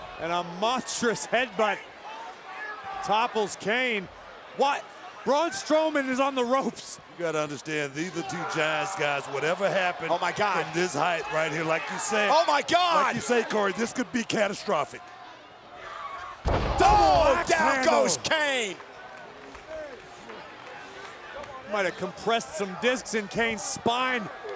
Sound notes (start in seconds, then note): 16.4 body thudding